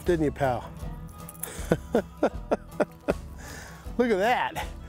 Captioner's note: chuckles